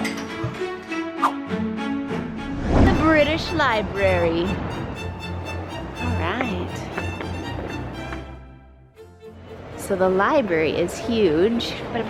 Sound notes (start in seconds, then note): 0.0 silverware clacking; 2.2 logo whooshing